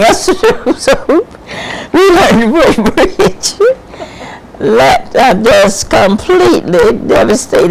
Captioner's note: laughs